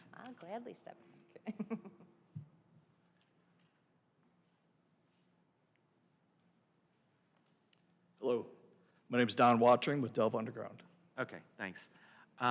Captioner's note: laughter